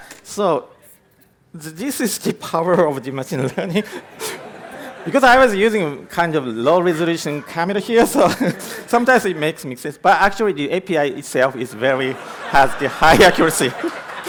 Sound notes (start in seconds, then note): 11.4 laughter